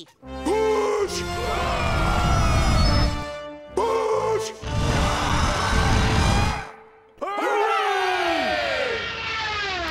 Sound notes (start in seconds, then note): 0.5 shouting and grunting; 7.2 cheering